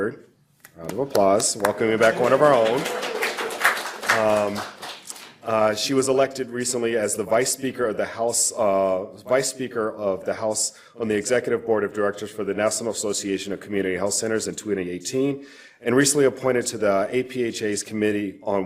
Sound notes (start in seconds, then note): 2.8 audience applause